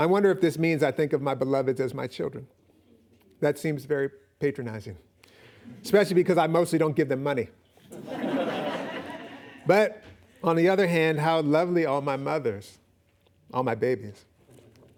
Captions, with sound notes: I wonder if this means I think of my beloveds as my children. That seems very patronizing, especially because I mostly don't give them money. [audience laughing] But on the other hand, how lovely all my mothers, all my babies.